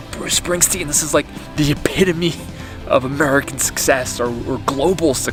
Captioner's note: chuckles